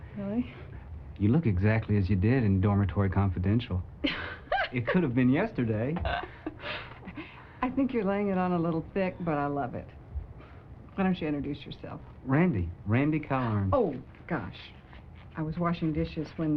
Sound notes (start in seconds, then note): 4.0 laughs